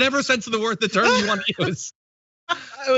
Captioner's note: laugh